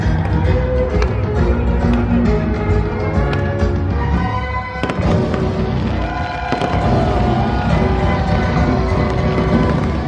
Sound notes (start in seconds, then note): 1.1 fireworks exploding; 7.2 crowd cheering